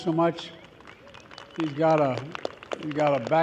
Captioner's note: applause